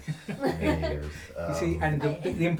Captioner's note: laughing